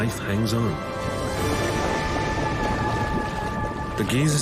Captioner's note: water gurgling